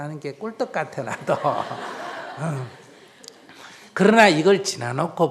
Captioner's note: audience laughter